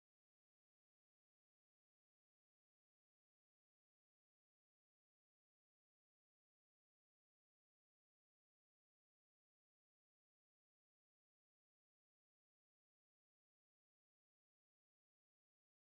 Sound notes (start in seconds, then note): none